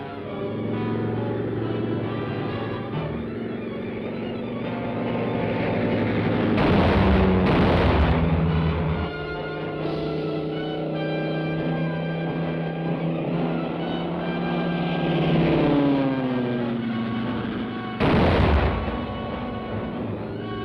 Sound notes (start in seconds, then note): 0.1 engine buzzing; 6.5 explosions; 9.7 engine buzzing; 18.0 explosion